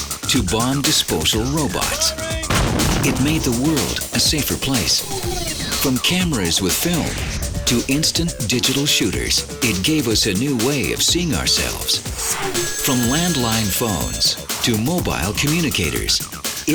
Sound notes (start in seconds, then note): 2.4 explosion booms